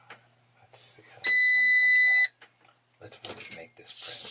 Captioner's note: machine beeps